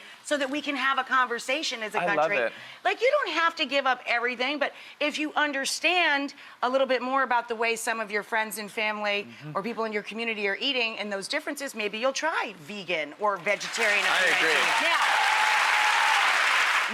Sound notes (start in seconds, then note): 13.5 audience applauds; 15.6 audience applauds and cheers